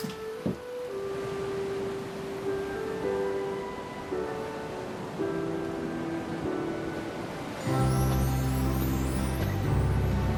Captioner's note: ocean waves rolling in